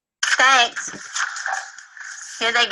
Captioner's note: disembodied Female Voice